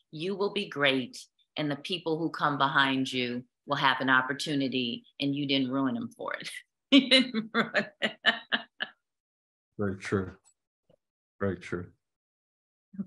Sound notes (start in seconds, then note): 7.2 laughter